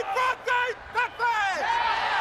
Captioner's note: crowd cheering